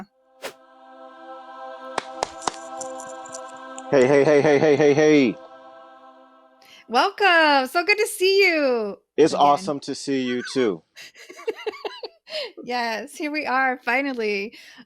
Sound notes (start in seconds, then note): 8.3 quietly; 11.0 laughs